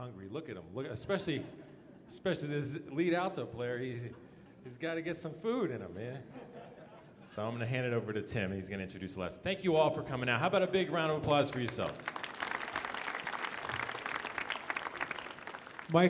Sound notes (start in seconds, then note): 6.2 audience chuckling; 11.5 audience applauding